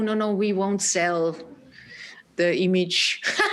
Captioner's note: laughing